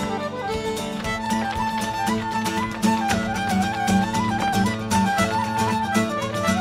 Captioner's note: bright Irish music; shoes rhythmically tapping